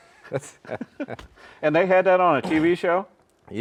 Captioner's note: both laughing